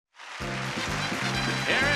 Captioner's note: audience clapping